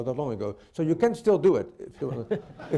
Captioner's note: laughter